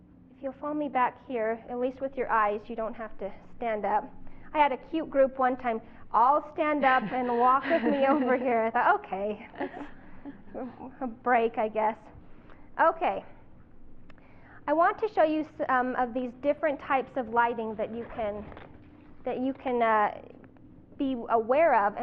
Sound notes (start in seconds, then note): 9.4 chuckling